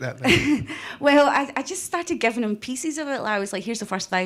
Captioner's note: chuckles